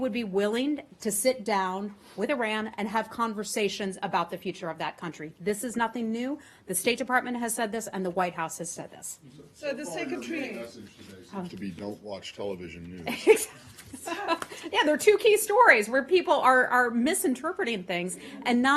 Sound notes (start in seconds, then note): 13.0 laugher